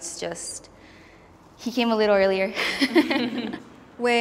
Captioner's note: laughs